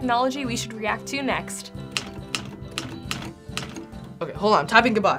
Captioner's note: keys clacking